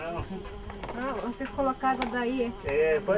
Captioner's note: speaking foreign language